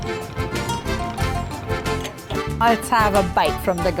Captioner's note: happy music; pouring